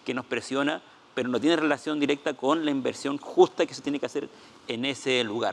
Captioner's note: speaking Spanish